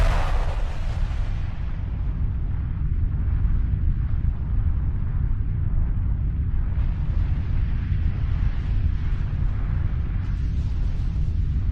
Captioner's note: time warp whooshing sounds